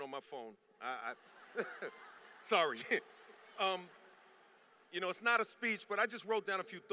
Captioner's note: laughter